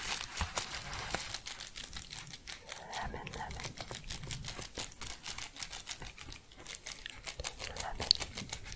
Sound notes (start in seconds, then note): 0.0 shuffling and crinkling; 3.9 rhythmic crinkling; 8.3 rhythmic crinkling, then tapping